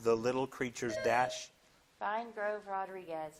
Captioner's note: buzzer dings